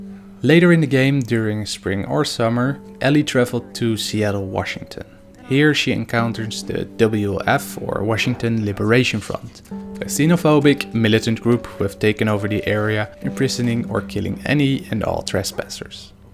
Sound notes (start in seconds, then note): none